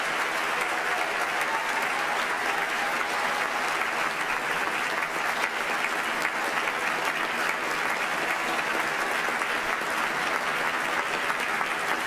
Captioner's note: applause